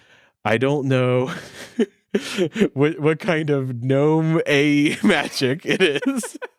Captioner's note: laughing